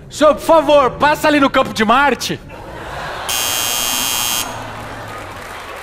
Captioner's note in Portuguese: campainha